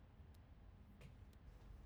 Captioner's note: none